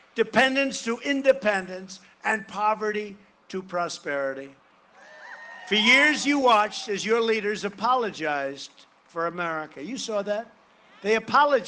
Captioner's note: cheering and applause